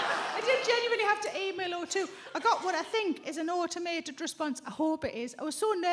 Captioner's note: chuckles; audience laughs